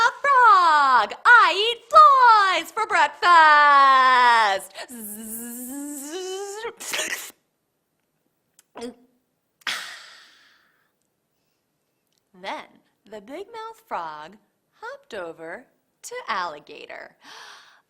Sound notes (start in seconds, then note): 4.9 buzzes like a bug, slurps, and swallows